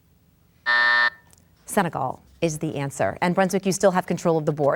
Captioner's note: bell buzzes